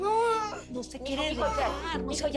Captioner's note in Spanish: Hablan al unísono